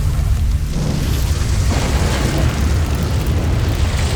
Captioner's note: infernal whoosh-crackle; flutters; thuds, then rumbles; flutters; infernal whoosh-crackle